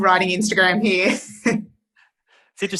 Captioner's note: laughs